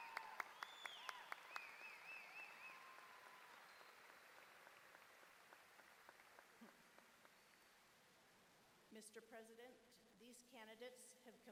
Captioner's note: applause